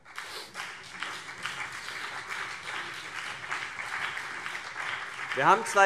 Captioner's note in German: Beifall CDU und BÜNDNIS 90/DIE GRÜNEN